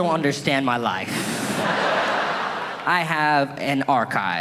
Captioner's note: audience laughing